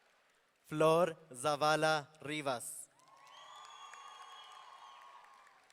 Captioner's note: audience cheering